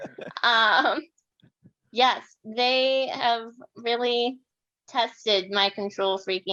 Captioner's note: chuckles